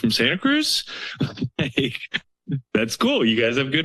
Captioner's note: laughs